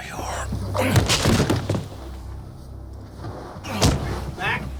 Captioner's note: grunting